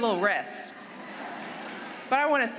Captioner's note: laughter